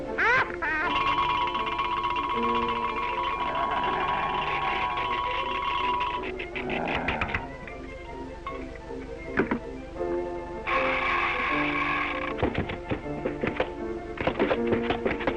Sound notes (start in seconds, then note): 0.0 laughing; 6.6 growling